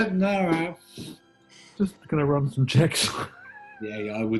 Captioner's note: laughs